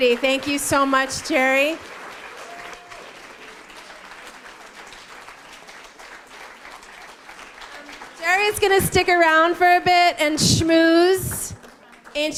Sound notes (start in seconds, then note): 2.9 applause continues